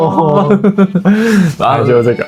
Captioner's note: hehehe